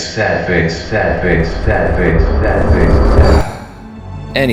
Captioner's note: sigh